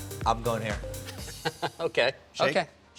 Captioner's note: laughs